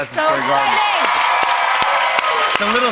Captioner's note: cheers and applause